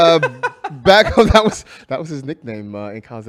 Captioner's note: laughs